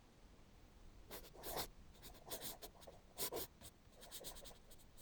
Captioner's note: pen scratching